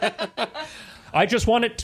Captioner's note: laughing